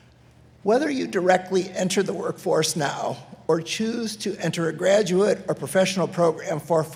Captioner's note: none